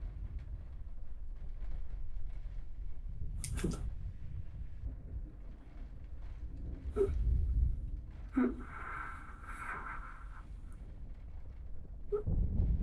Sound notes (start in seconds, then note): 8.4 gasping